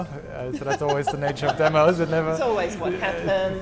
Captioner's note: laughing